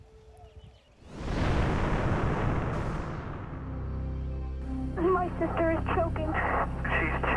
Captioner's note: whoosh; ♫ ominous music ♫